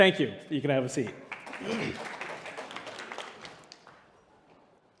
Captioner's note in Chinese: 掌聲